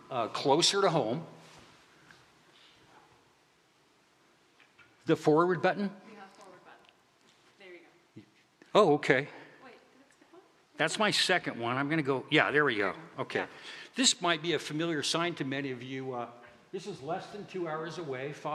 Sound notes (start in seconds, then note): none